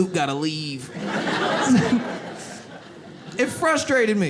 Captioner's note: audience laughs